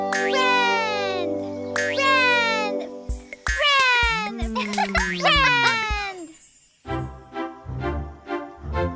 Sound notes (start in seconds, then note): 3.6 laughing